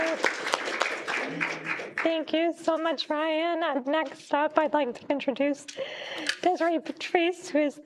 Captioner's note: applause